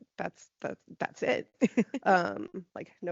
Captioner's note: laughing